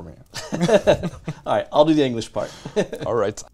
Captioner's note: laughing